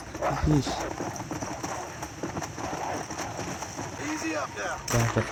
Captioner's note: sounds of galloping horse